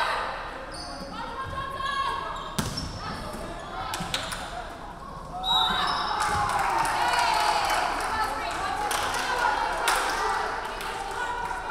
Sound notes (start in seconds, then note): 5.4 referee whistling; 6.2 crowd clapping